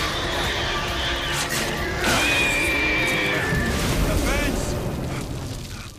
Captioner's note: creature screeching